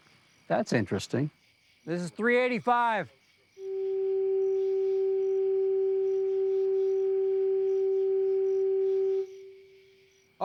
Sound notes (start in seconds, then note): 3.9 medium-pitched tone sounds; 8.8 tone stops, echoes